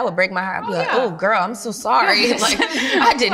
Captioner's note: laughs